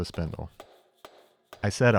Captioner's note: hummer tapping